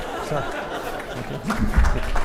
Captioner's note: audience laughing; audience applause and laughter